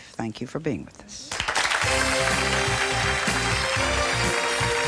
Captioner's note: audience applauding; jazzy music